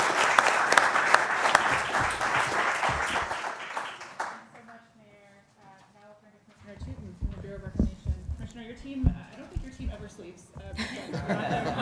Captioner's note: applause